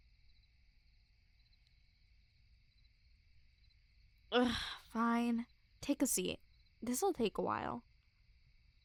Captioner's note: soft groan